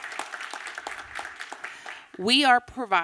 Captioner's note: applause